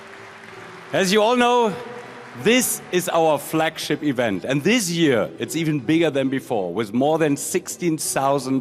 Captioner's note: applause